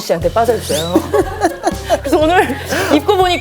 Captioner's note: spit